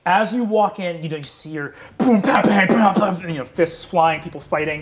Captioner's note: imitates thudding